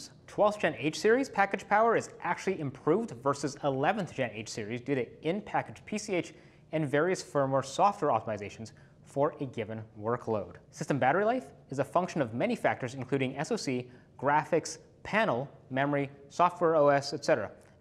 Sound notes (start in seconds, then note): none